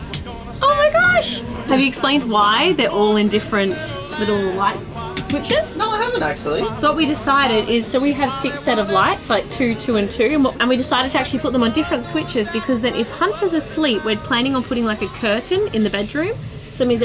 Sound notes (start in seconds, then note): 0.3 light switch clicks; 5.2 light switches clicking